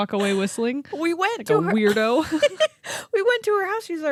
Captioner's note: laughing